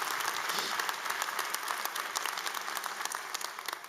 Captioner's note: applause